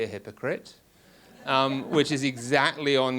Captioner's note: audience laughs